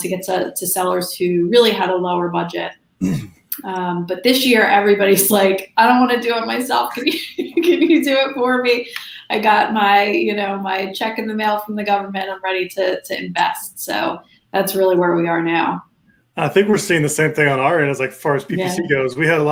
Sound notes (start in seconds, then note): 3.0 chuckles; 7.2 laughs